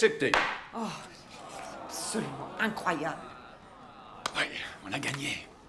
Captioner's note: gavel bangs; crowd grumbling; claps